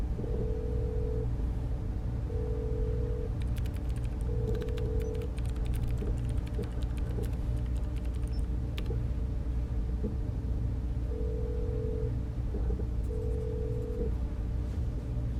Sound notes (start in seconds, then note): 1.0 phone line ringing; 3.3 computer keys tapping; 13.1 phone line ringing